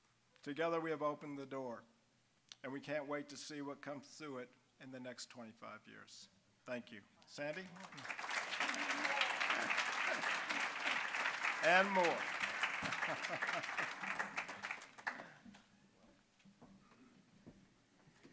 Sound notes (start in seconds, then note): 8.3 applause; 10.1 chuckling; 13.0 applause